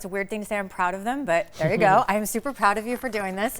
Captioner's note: chuckling